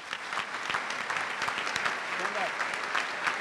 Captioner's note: applause